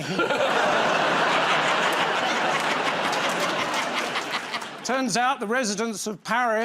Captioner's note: laughter